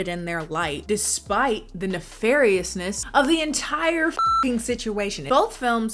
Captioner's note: beep